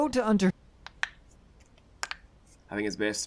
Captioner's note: knuckles Crack